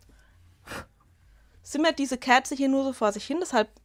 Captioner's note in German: Schnauben